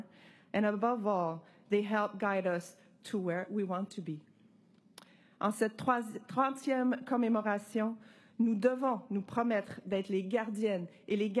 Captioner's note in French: voix de l'interprète